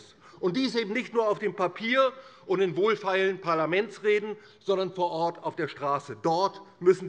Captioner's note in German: none